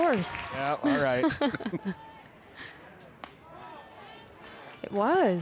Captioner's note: chuckles